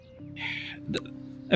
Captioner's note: sighs